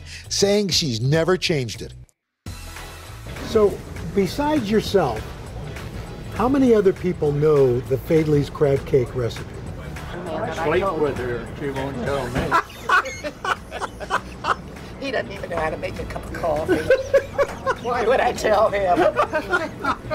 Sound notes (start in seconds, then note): 12.3 laughs